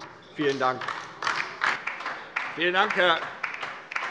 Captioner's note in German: Beifall DIE LINKE